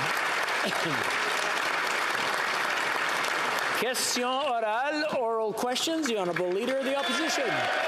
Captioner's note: applause